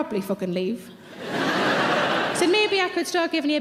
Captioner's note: audience laughs